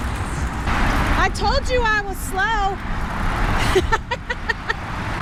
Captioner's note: laughter